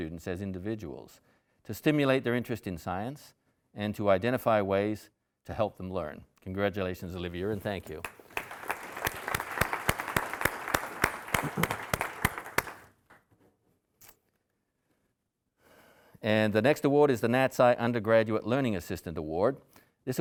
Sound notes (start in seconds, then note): 7.6 audience applauding